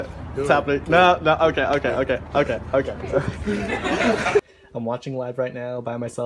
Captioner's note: laughter